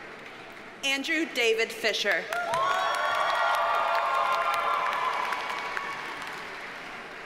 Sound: audience cheers and applauds

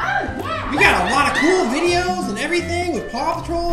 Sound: voiceover

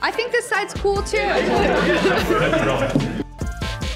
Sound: all laughing

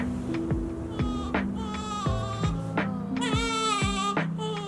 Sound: baby crying softly

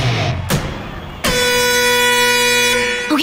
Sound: buzzing

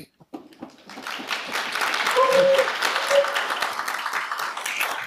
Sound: attendees applaud

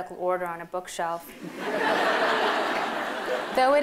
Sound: laughter

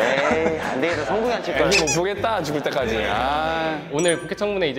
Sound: gritting teeth

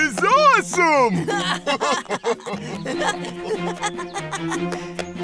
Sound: laughing

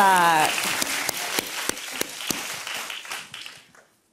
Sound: applause

